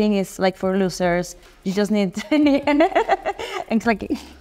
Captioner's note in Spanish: risas